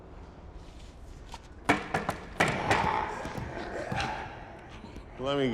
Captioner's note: knocking on window